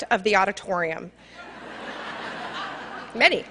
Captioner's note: laughter